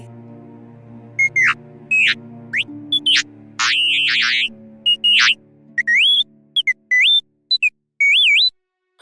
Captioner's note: t3-m4 beeps